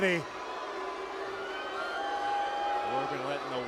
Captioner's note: crowd booing